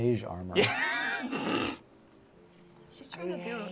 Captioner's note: laughter